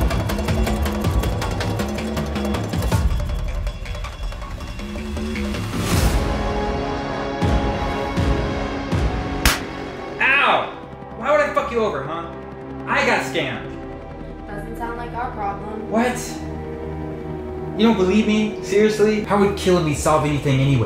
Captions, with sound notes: (smack) OW! Why would I fuck you over huh? I got scammed! Doesn't sound like our problem. What? You don't believe me? Seriously? How would killing me solve anything anyways?